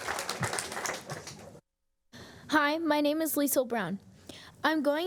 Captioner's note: applause